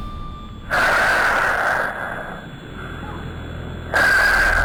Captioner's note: heavy breathing